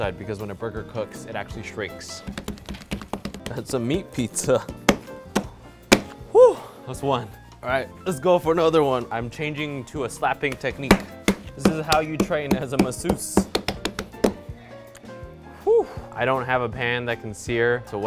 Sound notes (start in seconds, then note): 2.2 fists thumping; 5.8 fists thumping; 10.4 hands thumping